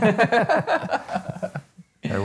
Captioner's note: both laughing